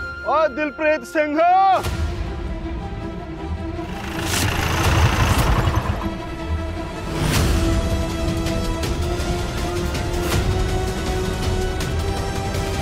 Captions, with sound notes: Hey, Dilpreet Singh! [car engine revving] [tense music playing]